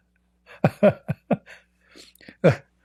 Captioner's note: Ketawa